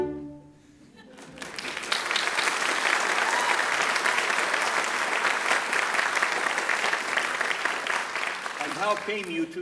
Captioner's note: applause